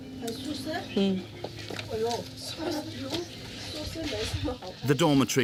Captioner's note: roommates speaking foreign language